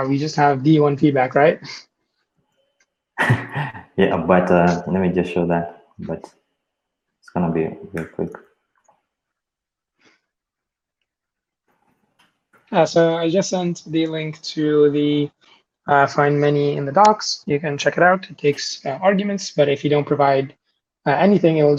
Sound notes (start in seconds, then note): 3.2 laughs